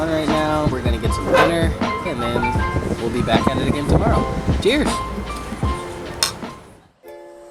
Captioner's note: glasses clink